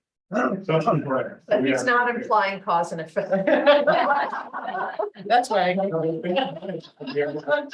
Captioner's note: laughs